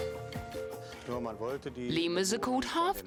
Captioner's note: speaking foreign language